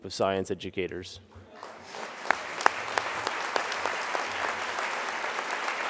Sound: crowd applause

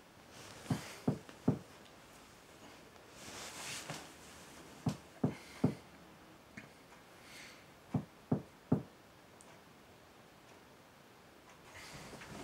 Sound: knocking continues

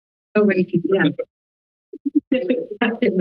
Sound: background chatter

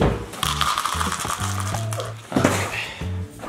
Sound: cereal pouring

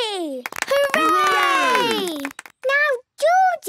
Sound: cheering, clapping

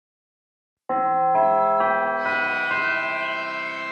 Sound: bell chimes

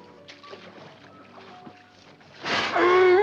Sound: splashing

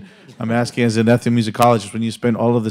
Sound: audience laughs

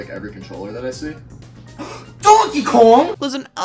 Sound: gasps

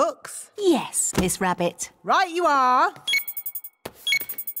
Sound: beeping

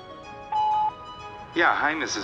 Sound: gentle music; phone beeps

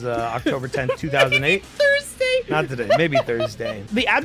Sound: laughing

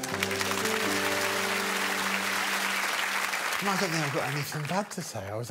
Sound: applause

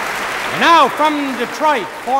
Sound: crowd applauds

